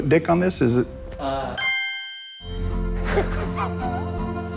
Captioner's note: bell chimes; Adam laughs